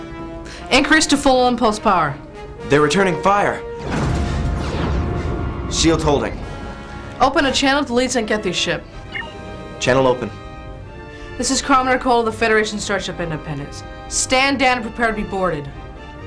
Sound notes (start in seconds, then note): 4.5 explosion